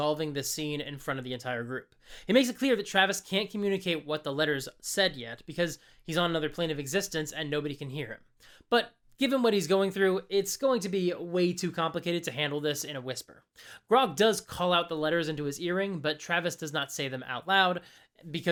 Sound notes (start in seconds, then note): none